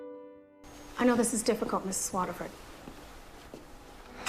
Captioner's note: voiceover